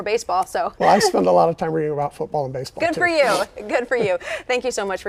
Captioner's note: laughter